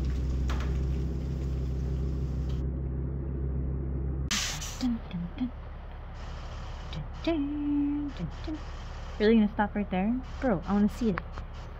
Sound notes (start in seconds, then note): 4.9 imitates suspense music